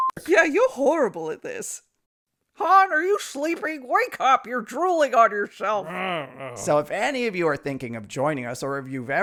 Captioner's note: Han groans